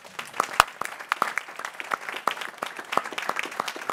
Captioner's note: people clapping